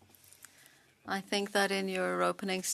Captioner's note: speaking French